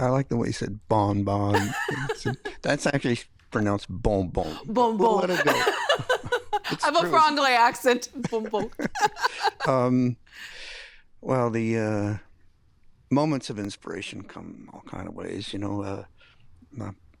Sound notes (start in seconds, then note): 1.5 laughing; 4.6 French accent; 6.8 laughing; 10.3 laughing